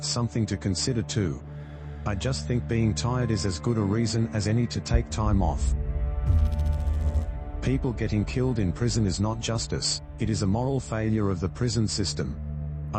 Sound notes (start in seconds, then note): 5.7 electrical noise